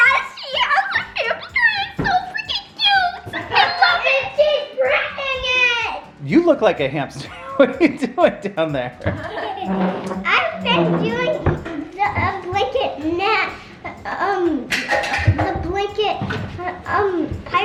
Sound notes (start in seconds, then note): 7.2 chuckling